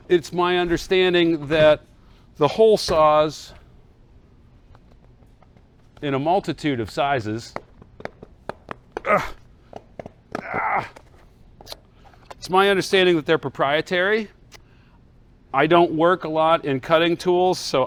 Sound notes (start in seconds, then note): 9.0 groans